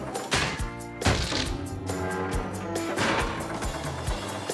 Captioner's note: posts Banging